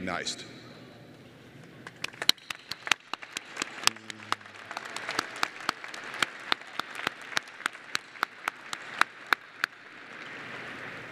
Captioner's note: applause